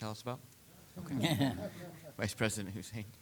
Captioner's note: chuckling